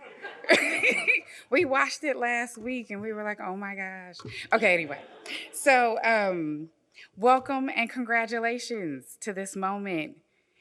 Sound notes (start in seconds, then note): 0.0 audience laughs; 0.0 laughs; 4.4 audience laughs